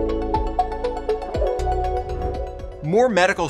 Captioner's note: electronic music; graphics whooshing